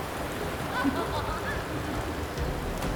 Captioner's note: boisterous Laughter